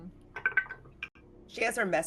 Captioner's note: dice rolls